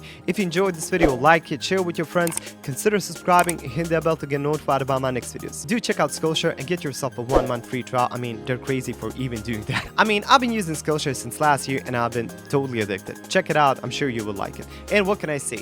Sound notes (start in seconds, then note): 9.7 giggles